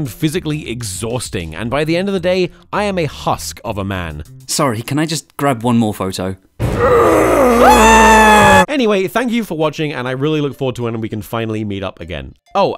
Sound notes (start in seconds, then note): 6.7 screaming; 6.7 horror music